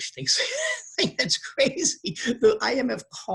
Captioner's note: laughs